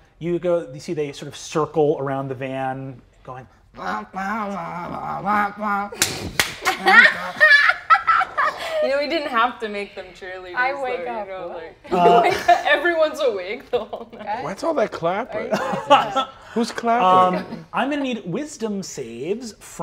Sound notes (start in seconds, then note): 3.8 grunts cheer music and claps rhythmically; 6.6 laughing